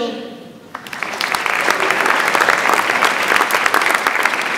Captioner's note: audience applauds